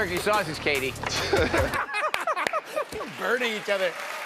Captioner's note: laughter